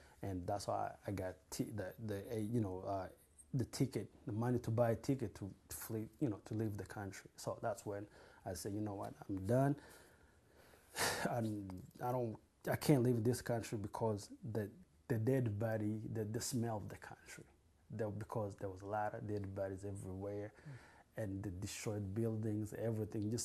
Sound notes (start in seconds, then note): 11.0 sighs